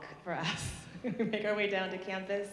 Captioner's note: chuckling